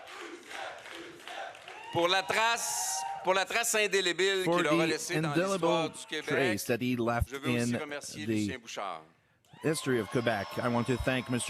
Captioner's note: chanting